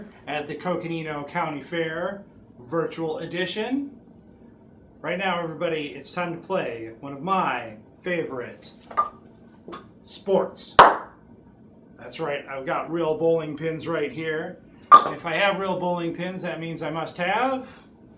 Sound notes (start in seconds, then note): none